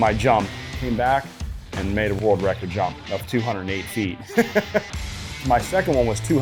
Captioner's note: laughs